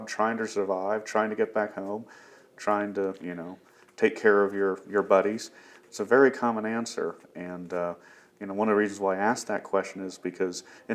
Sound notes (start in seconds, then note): none